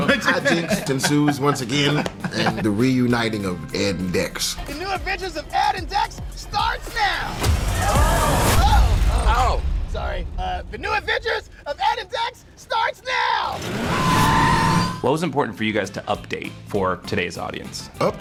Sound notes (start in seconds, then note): 13.5 tires squealing